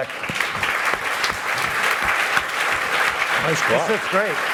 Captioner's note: applause